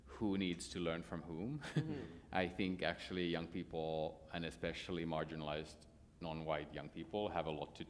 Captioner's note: laughter